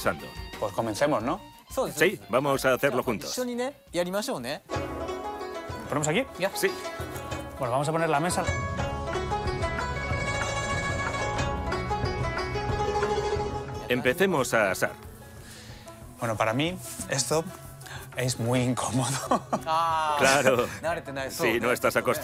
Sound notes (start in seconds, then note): 19.0 laughs